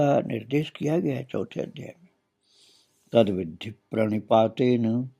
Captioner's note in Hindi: नाक से की जाने वाली आवाज़